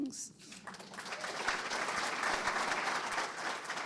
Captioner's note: audience clapping